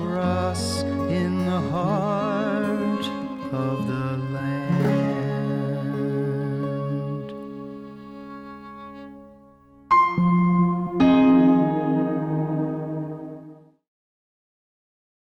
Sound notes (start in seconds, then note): 6.7 gentle country music; 9.9 chime